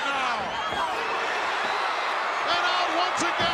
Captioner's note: crowd cheering